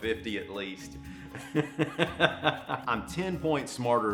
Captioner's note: laughing